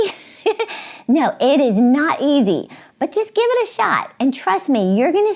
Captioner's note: chuckles